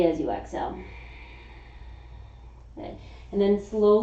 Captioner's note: exhaling